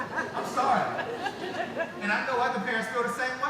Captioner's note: laughing